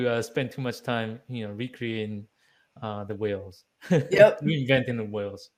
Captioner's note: chuckling